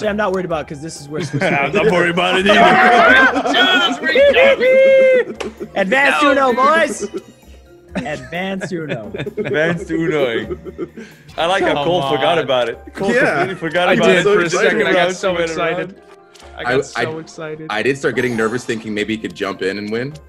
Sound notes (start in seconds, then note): 10.6 laugh